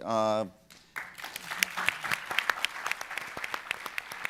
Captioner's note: applause